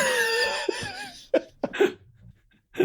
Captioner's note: laughter